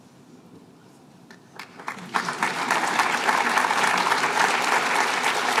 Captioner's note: applause